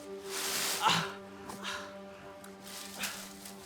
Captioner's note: bag rustling